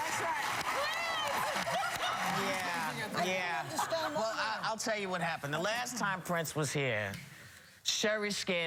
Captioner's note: laughter